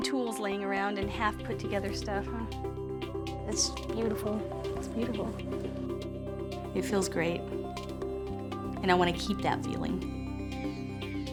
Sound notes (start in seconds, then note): none